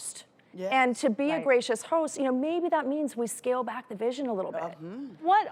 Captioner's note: none